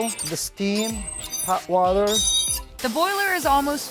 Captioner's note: creaking sound